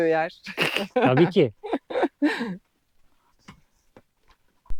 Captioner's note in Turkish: kahkaha